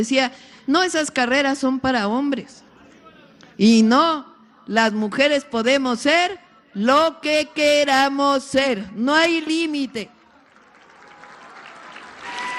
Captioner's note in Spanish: aplausos